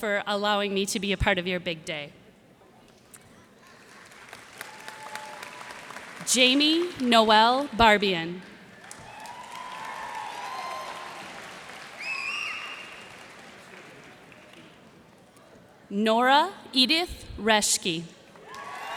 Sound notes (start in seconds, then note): 8.7 cheers and applause